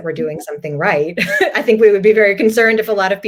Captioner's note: laugh